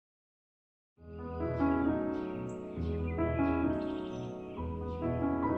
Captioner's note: gentle music; birds chirping